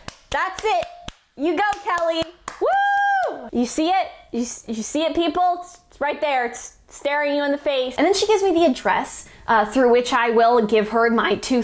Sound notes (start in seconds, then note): 1.6 clap clap clap clap clap